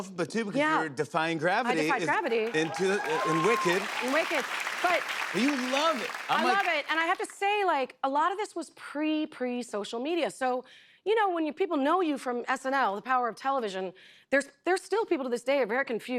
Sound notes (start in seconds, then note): 4.5 applause